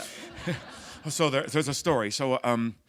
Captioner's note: laughter